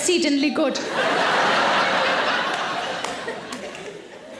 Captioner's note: audience laughing